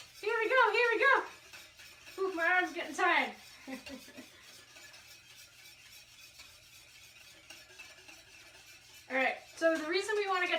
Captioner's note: laughs